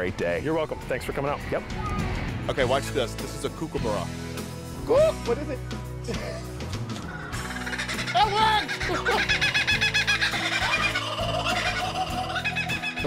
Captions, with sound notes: You're welcome. Thanks for coming out. OK, watch this. This is a kookaburra. Kooo.. what do they.. [laughing] [bird singing loud] IT WORKS!!